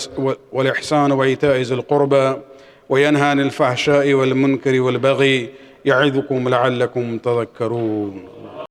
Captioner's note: arabic